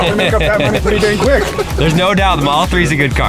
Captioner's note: laughing